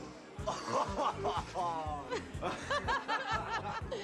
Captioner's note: group laughing